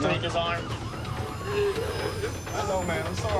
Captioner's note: gasping